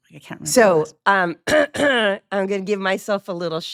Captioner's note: clears troat